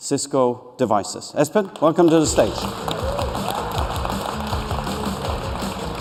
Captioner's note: cheers and applause